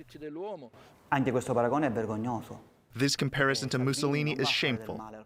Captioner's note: through translator